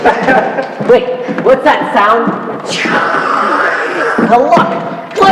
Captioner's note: laugh; vocalises jet engine sound